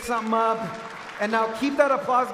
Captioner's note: audience cheering